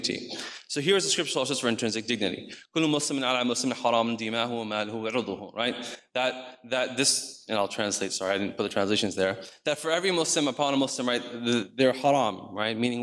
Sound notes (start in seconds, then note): 2.9 speaks in foreign language